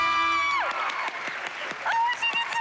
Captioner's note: applause